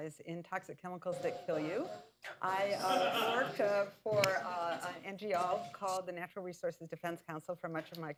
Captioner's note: laughter